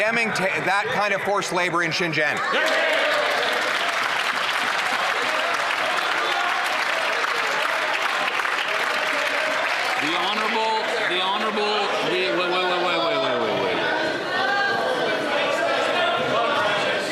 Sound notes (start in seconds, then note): 6.5 some Applause